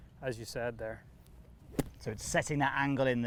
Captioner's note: golf club thwacking